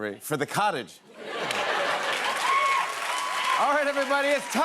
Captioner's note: laughter and applause